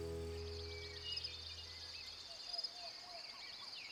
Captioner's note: birds chirping